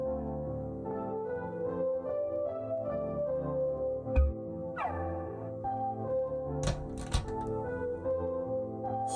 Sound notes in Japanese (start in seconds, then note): 6.6 扉の開閉音：ガッチャン